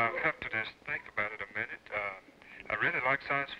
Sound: on phone

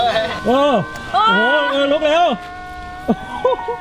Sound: sad music playing; screams

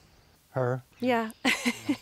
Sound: laughter

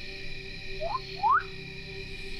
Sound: whistles twice

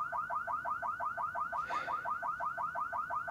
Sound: car alarm blaring

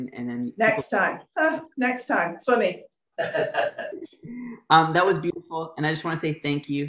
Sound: laughter

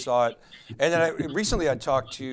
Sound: laughing

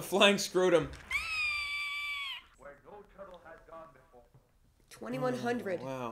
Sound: screeches

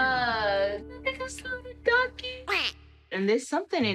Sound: duck quacks

